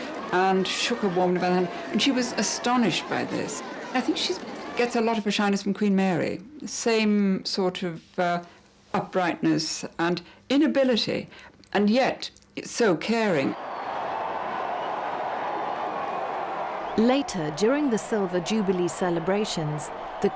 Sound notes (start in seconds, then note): 13.5 crowds cheering